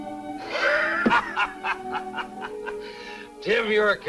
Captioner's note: gentle music; man chuckling